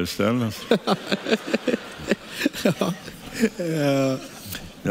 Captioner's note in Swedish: skrattar